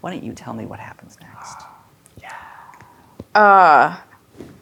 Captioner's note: gasps